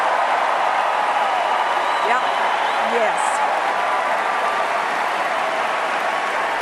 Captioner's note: cheers and Applause